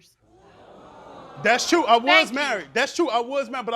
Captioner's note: crowd oohing